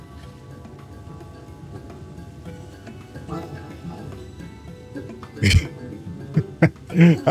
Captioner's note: laughs